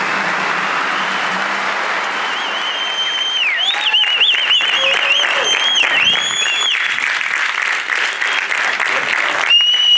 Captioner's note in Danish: klapsalve